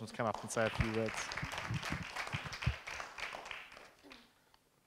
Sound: audience clapping

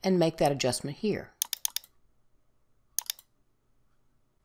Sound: mouse clicks

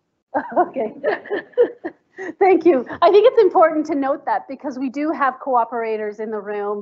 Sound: laughs

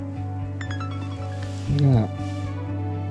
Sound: phone dings

